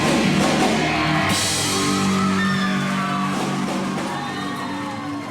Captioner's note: crowd cheering